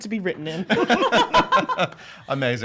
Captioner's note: laughs